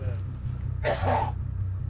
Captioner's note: coughs